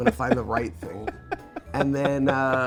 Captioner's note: Andrew laughing